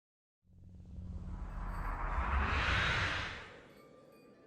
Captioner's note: swoosh sound